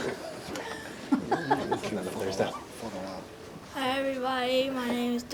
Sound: laughs

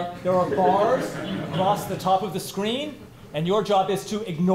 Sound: laughter

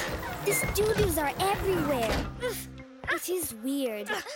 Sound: children grunting

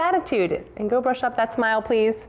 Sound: whisper

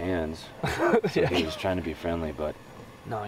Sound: laughing

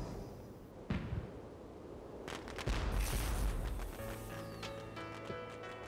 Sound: fireworks exploding; gentle music

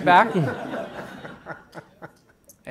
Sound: laughter

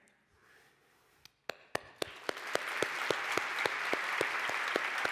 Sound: applause

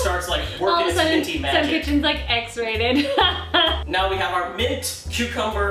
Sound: laughs

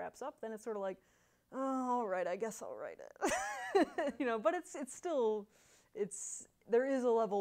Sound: laughs

